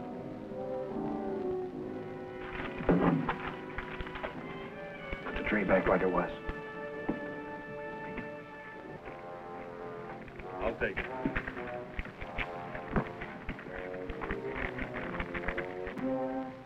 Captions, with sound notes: - (whispering) Put the tray back like it was. - I'll take it.